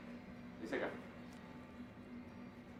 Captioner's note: man speaks in foreign language